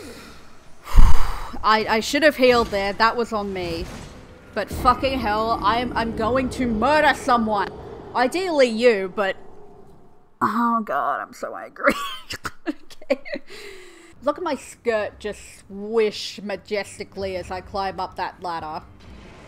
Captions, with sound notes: *Exhale* I- I should've healed there, that was on me. But fucking hell, I am- I'm going to MURDER someone. Ideally you, but... oh god, I'm so angry *wheezing* OK. Look at my skirt just SWISH majestically, as I climb up that ladder.